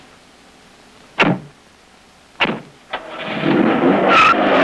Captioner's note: doors banging; engine rumbles; tires squealing